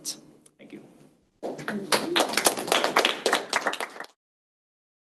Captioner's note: applause